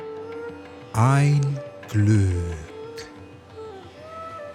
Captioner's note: german